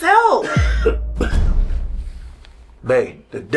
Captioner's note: visitor coughs